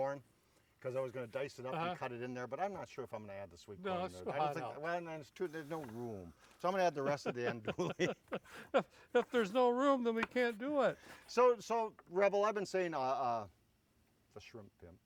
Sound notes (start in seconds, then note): 7.0 chuckling